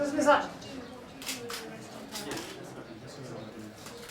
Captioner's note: crowd chattering